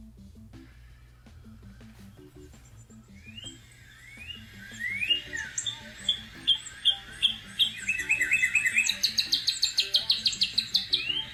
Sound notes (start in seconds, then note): 3.6 cardinal chirping